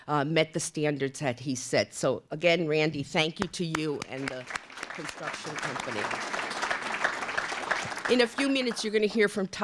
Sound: applause

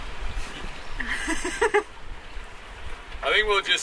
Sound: both chuckle

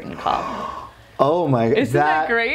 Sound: gasps

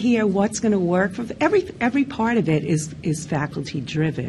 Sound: none

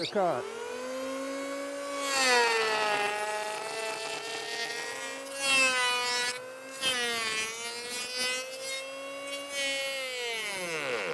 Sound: planer buzzing

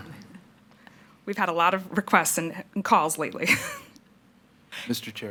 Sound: chuckles

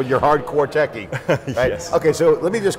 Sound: laughs

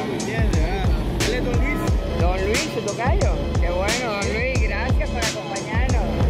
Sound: indistinct chatter

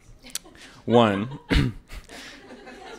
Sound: laughter

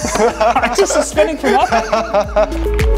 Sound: laughing

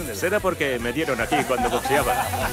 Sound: laugh

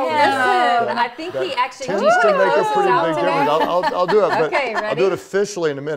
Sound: laughter

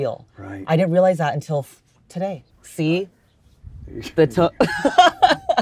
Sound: laughs

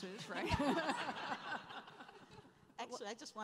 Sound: laughing

